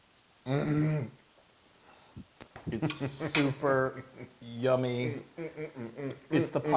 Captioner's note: laugh